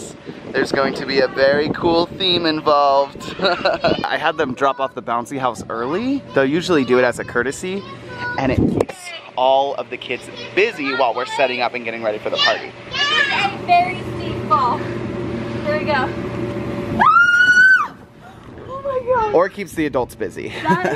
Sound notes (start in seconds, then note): 17.0 screaming